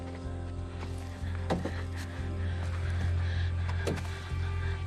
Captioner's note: both breathe heavily